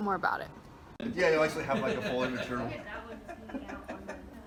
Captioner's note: talking in background